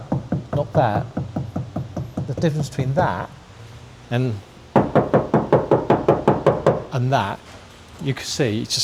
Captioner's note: tap tap tap; tap tap tap